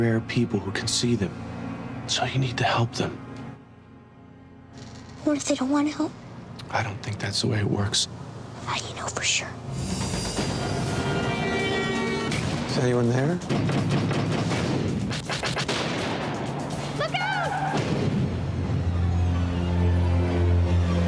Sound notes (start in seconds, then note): 13.4 door knocks; 18.2 dramatic music